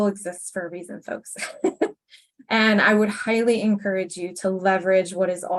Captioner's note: chuckles